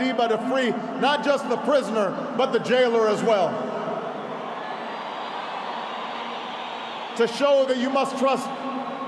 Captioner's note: applause